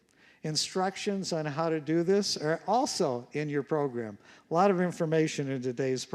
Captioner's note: none